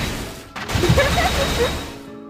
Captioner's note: laughs